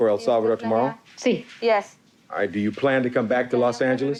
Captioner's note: translator speaking Spanish